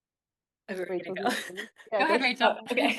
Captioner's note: guest laughs